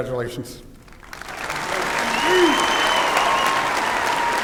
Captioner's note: applause and cheering